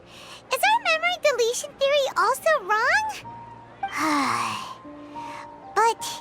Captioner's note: sigh